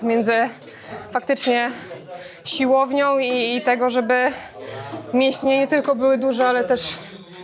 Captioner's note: snorts